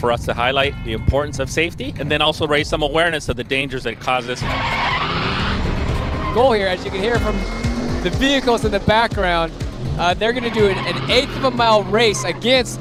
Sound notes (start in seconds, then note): 4.3 tires screeching; 4.3 vehicle engine roaring